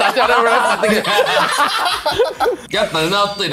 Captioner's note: laughs